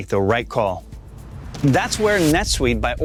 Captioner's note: transition sound effect